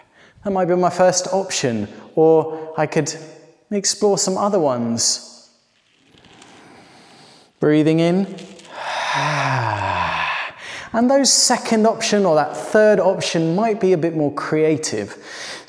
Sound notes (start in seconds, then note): 8.6 sighs on exhale